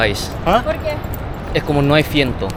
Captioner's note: Spanish; Spanish